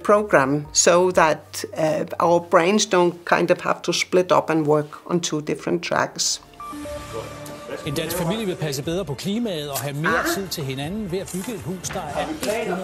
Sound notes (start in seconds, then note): 6.9 loud sound from TV; 11.1 in Danish